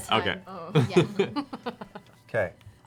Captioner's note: laughs